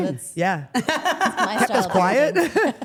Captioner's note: Steph laughs; laughs